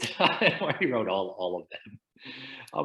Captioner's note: laughs